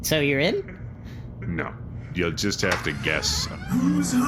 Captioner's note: door creaks open